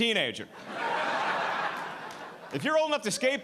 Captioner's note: audience laughing